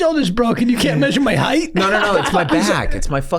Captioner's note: laughs